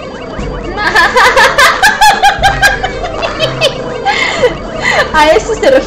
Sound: laughs

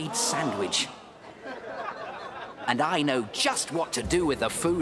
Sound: laughter

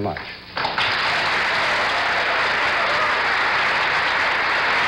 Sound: audience applauding

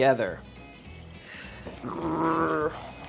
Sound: whisking; growling

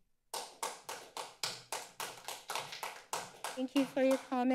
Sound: applause

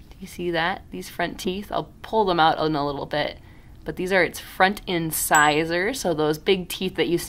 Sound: ding

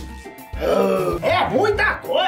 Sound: grunts

